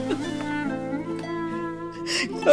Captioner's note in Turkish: Ağlama sesi